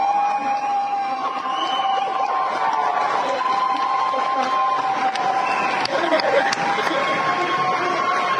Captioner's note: wild applause